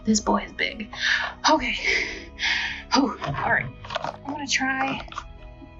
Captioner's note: gasps